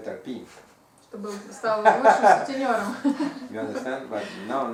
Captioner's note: hahaha